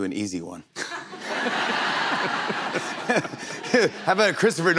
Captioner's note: laughter